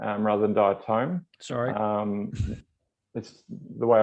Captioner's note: chuckles